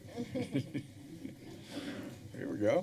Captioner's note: chuckling